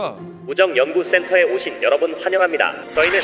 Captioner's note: an alarm going off as if it had been waiting